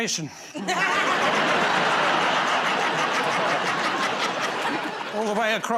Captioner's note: laughter